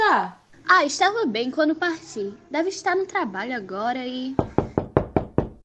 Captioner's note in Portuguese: pergunta alto; responde alto; Batidas apressadas na porta interrompem Dayane